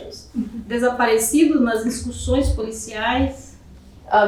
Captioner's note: speaking portuguese